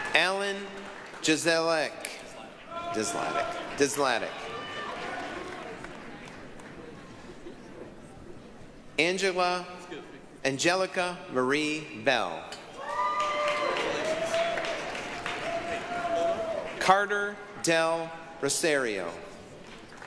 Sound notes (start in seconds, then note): 4.3 applause, cheering; 12.7 applause, cheering